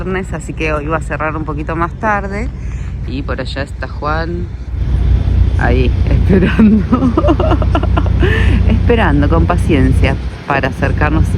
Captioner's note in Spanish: risas